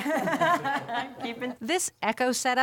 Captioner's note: laughter